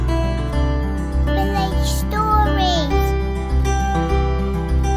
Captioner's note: child's voice